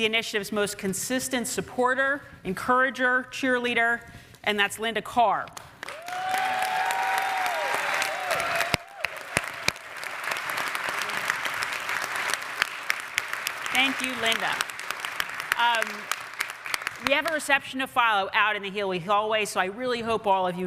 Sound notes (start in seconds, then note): 5.9 audience cheers; 6.5 audience applauds